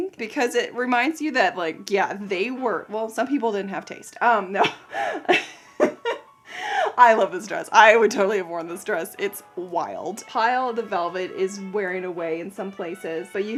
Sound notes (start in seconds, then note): 4.6 laughs